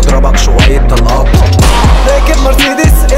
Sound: poww-powww

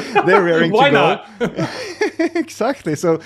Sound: chuckles; chuckling

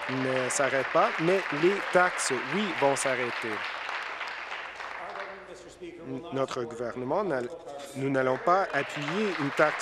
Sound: applause

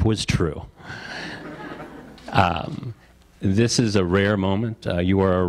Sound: audience laughter

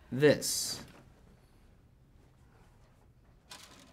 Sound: silence

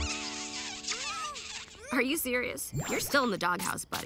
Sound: straining; kissing sounds

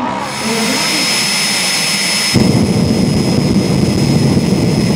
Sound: Queen of Diamonds jet car sound

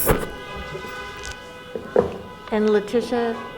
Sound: microphone blowing; cars honking

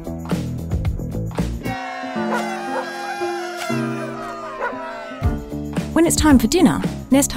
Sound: celebratory cheers

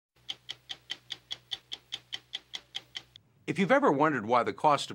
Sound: stopwatch ticking

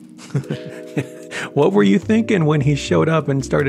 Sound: laughing

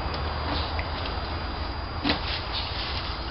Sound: metallic Rattling

